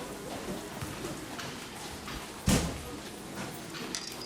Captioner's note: none